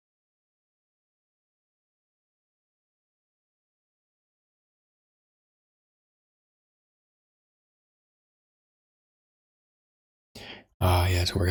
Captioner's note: blank Audio